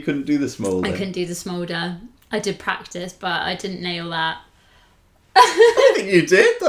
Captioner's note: laughter